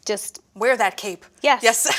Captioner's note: laughs